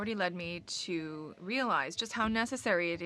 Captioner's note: speaking French